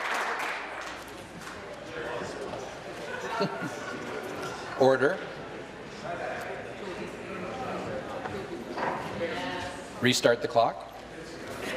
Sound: applause

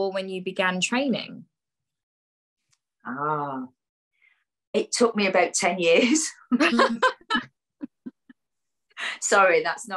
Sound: laughs

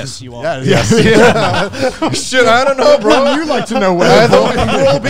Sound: group chattering

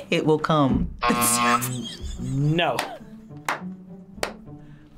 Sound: laughs; buzzer rings; whispers

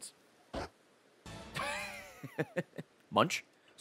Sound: laughs

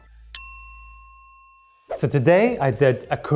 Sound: bell dings

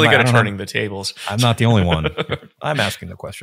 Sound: chuckling

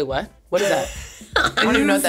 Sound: laughs

